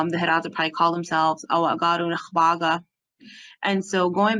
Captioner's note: Speaking Hidatsa